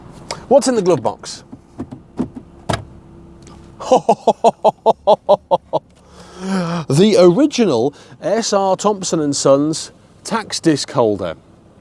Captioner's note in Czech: smích